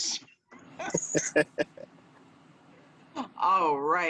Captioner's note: laughing